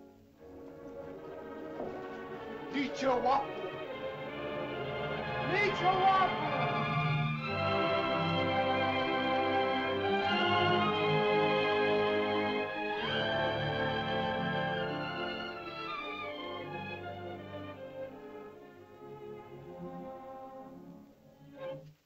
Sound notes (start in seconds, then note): 0.2 suspenseful music; 2.7 speaking in caveman language; 2.7 suspenseful music; 7.3 triumphant music; 17.4 soft music